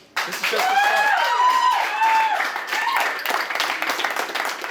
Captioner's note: applause, cheering